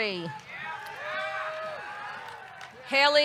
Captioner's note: audience cheering